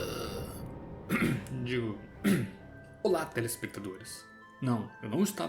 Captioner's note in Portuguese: coff